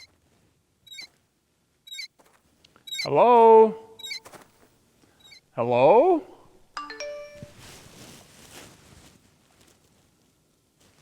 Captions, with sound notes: (wheels squeaking) - Hello? Hello? (text notification beeps)